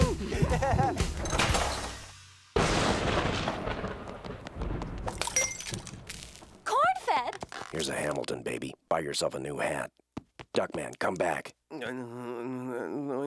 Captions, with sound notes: (thunder crashing) (glass breaking) Cornfed! Here's a Hamilton, baby. Buy yourself a new hat. Duckman, come back. (groggy mumbling)